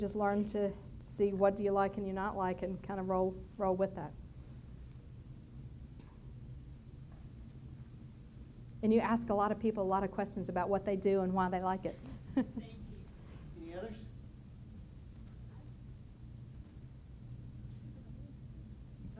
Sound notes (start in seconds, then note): 12.0 chuckles